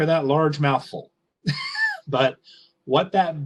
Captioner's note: giggles